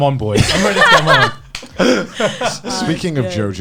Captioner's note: laughs